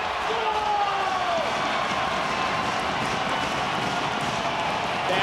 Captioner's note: crowd cheers